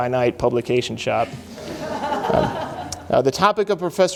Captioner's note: laughing